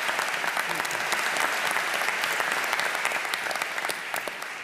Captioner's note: applause